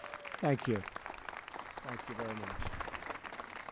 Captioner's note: applause